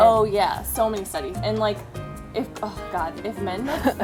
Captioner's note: laughs